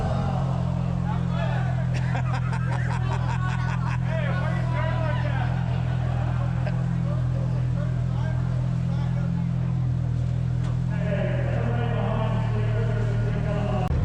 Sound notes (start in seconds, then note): 0.0 laughing